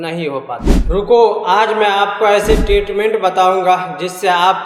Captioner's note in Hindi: नाक से की जाने वाली आवाज़